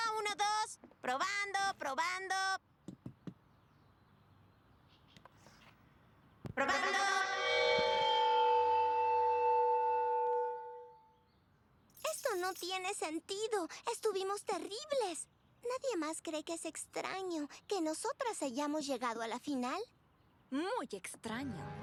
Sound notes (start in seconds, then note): 2.7 tap tap tap; 7.8 feedback